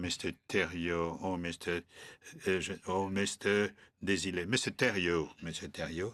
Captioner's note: speaking French